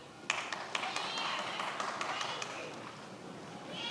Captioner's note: many applauding